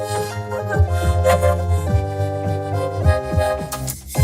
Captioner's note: gasps, whimpers; whimpering frantically